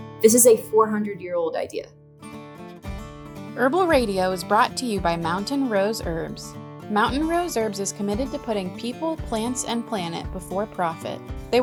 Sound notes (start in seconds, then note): 3.6 upbeat music; 4.4 voiceover